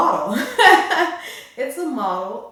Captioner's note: laugh